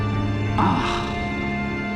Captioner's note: groans